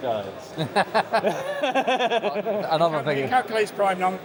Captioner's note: laughing